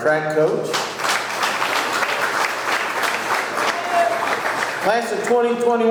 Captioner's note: audience clapping